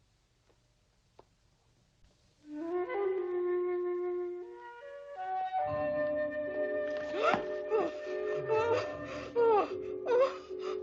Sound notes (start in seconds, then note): 5.8 light dramatic music; 7.1 Sheena gasps